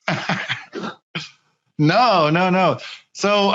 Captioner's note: laughing